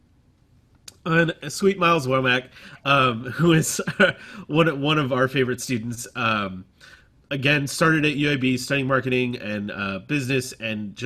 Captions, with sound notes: Sweet Myles Womack, who is [LAUGHTER] one of our favorite students. Again, started at UAB, sale marketing and business and